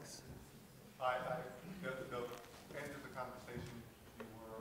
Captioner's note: voiceover